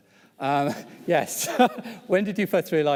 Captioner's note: laughs